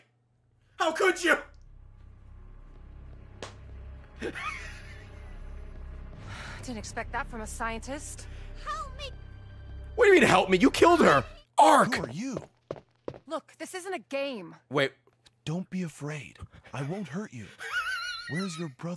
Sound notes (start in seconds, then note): 2.2 laughs; 17.4 laughs